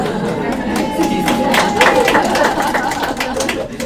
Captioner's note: applause